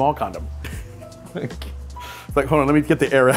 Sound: laughs

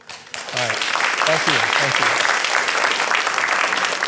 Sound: applause

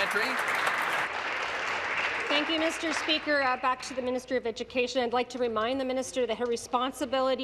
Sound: applause

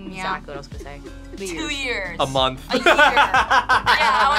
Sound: laughs

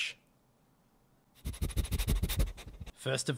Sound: sniffing noises

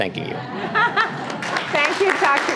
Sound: audience laughter; applause

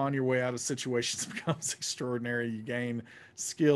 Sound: laughing

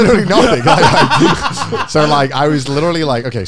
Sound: everyone laughs

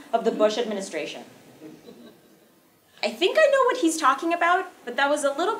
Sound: laugh

